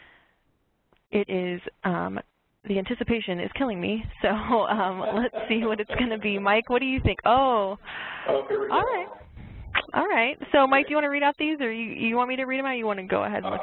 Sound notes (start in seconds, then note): 4.3 laughs